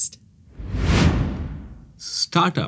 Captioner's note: air whooshing